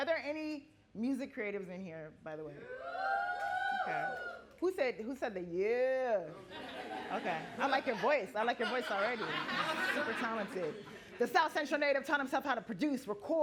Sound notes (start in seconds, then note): 2.7 audience cheering